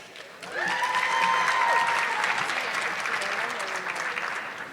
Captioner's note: audience clapping